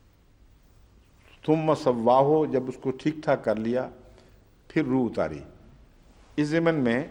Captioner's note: Arabic